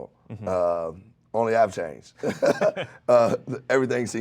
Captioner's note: laughs